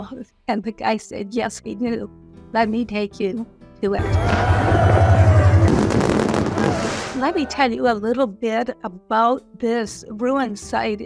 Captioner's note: fireworks and cheering